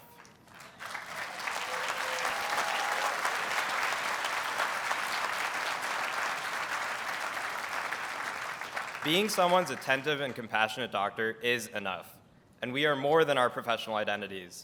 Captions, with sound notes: [Audience applauds] Being someone's attentive and compassionate doctor is enough and we are more than our professional identities.